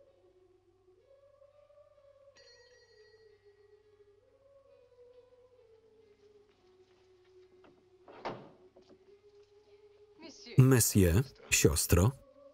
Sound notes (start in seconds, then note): 2.5 gate bell rings; 7.9 gate opens